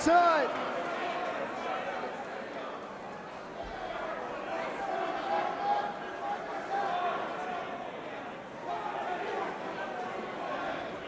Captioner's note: crowd chatter